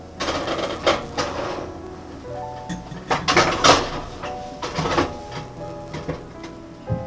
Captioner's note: heated oven